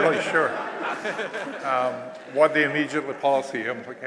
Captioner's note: laughter